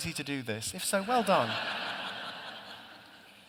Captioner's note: laughter